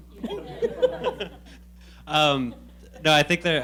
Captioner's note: laughing